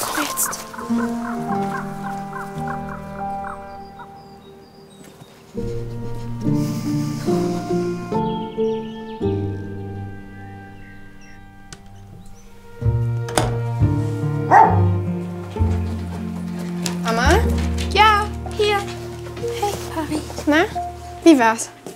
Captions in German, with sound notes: Komm jetzt. (Enttäuschte Musik) (Türklappern) (Hundebellen) Mama? - Ja, hier! Hey, Pari. - Na, wie war's?